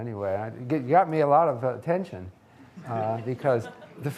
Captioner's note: audience laughing